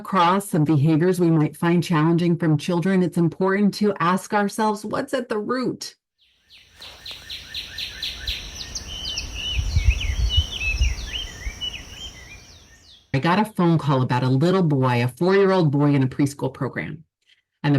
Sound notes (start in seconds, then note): 6.2 birds chirping